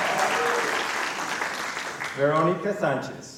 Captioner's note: applause